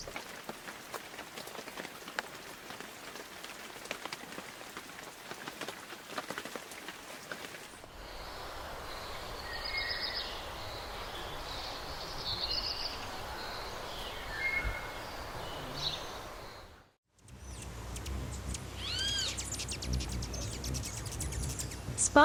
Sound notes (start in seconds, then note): 0.0 raindrops on leaves; 8.8 birds singing; 8.9 birds chirping